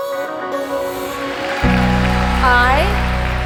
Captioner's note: crowd applauds